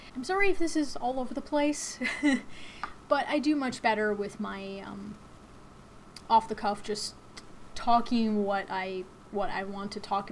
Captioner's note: chuckles